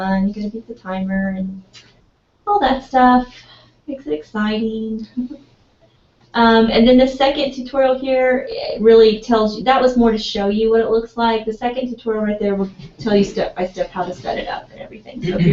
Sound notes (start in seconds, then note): 5.2 laugh